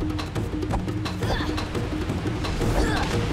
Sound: grunting

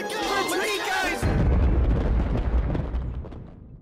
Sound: loud bang

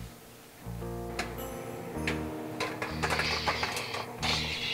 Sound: popcorn popping

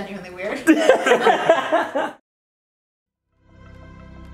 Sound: laughs

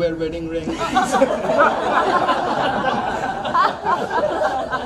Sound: crowd laughs

